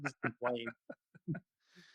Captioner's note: laughs